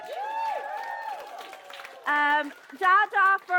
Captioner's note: cheering